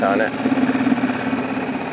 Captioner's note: engine rumbling